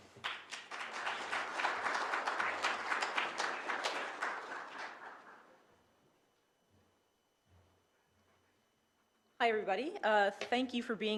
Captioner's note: applause